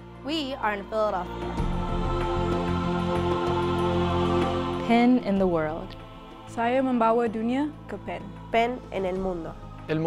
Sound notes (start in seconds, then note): 6.5 speaking foreign language